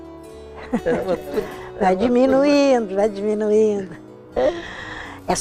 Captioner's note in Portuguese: risos